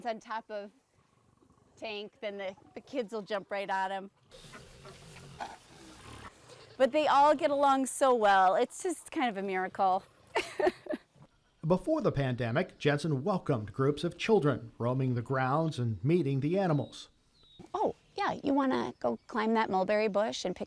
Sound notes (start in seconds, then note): 4.3 animals snorting; 10.3 laughs